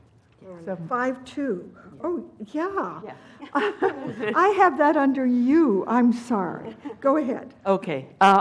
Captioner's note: laugh